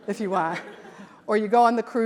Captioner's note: audience laughs